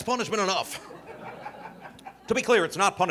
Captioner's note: audience laughing